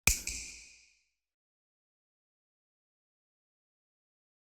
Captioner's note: snap